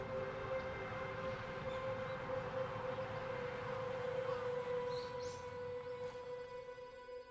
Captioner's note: suspenseful music; birds chirping